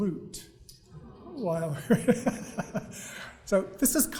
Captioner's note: audience awws; laughs